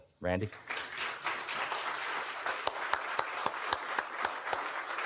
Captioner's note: audience clapping